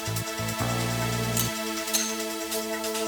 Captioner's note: gun clicks